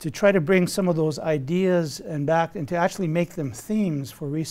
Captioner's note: none